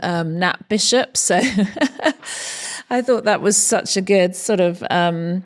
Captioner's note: laughs